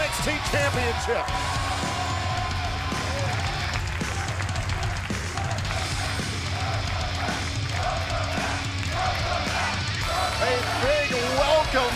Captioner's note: crowd cheering